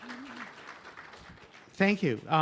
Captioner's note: applause